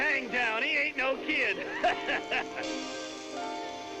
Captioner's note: laughing; soft contentious music